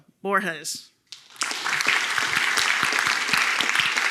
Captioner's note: applause